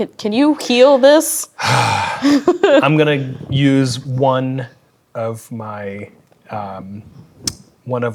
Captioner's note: sighs